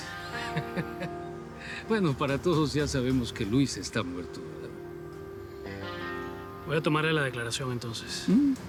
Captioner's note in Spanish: Risas